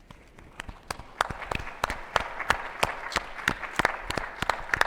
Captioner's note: attendees applauding